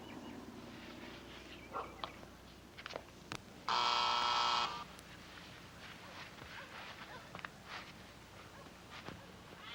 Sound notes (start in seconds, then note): 3.7 door buzzing